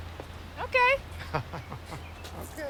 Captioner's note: Chris chuckles